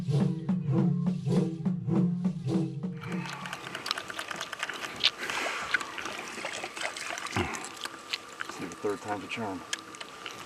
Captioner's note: reel cranking